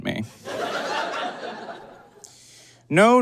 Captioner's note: audience laughs